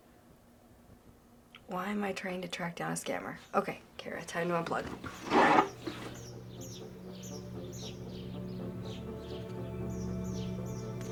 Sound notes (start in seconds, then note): 6.1 birds chirping; 8.6 pensive music plays